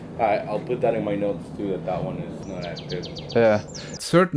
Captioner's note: murmurs